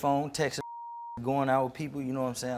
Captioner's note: beep